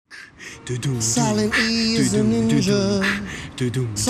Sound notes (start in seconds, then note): 0.4 beatboxing; 1.2 singing